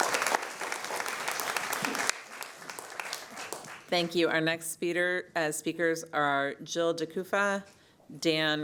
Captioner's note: applause